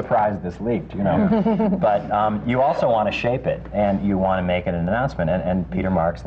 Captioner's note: laughter